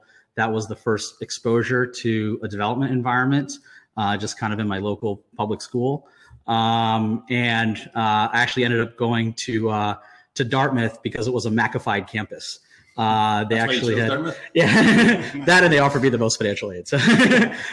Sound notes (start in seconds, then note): 13.7 both laughing